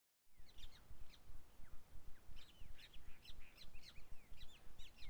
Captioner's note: birds sing, morning noises